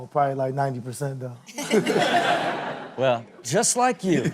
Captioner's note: everyone laughs